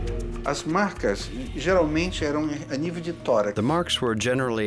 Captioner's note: speaking Portuguese